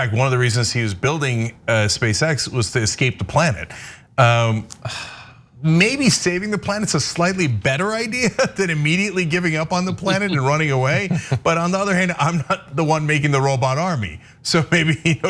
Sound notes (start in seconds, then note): 10.0 laugh